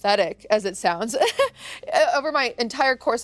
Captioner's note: chuckles